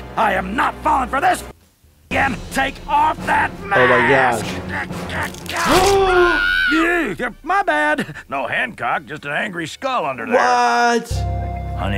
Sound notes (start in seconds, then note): 3.7 Randall grunting; 4.9 gasping; 5.6 Karen screaming